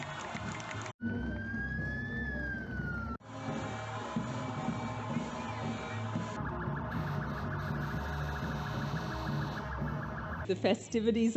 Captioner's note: sirens and the sound of the crowd